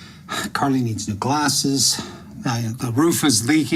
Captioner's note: sighs